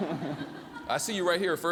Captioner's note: laughter